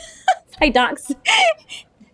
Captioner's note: laughs